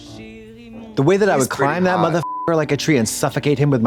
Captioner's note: beep